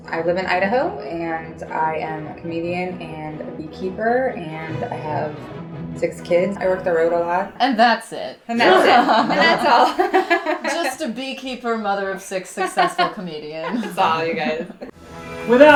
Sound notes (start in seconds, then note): 8.6 laughing